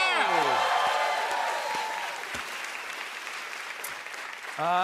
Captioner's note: cheers and applause